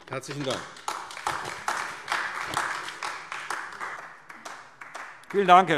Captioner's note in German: Beifall AfD